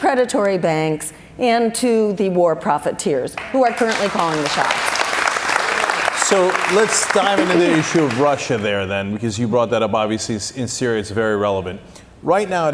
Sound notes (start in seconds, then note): 3.4 cheers and applause